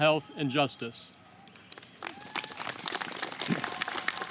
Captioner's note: applause